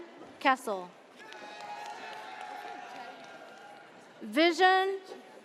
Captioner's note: audience cheers